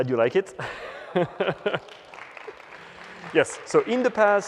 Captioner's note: applause